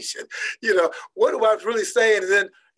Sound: laughing

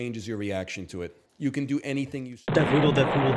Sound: explosion

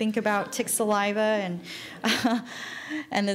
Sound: laughing

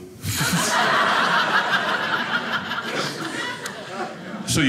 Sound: audience laughing

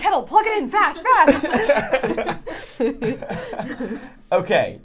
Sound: all laughing

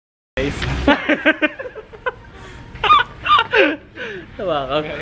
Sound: awkward laugh

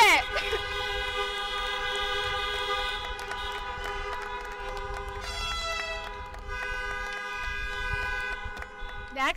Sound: car horns

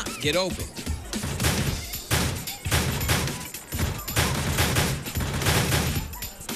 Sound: doors opening and slamming

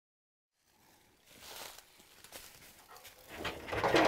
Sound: leaves crunching; bear rattling trap

